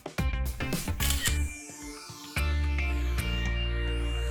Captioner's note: camera clicks